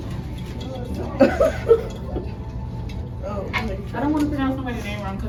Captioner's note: students laughing